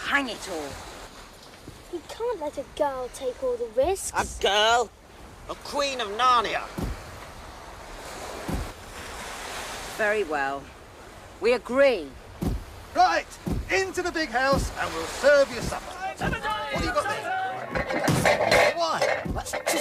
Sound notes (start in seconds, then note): 4.8 stomping feet; 13.4 stomping feet; 17.7 stomping feet